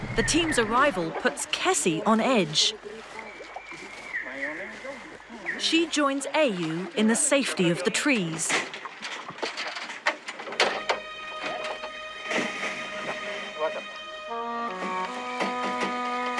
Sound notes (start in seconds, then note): 3.4 birds chirping; 8.6 metal cage clunking; 10.5 dramatic music; 11.1 metal cage clunking